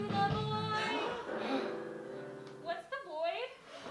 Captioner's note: gasps; more gasps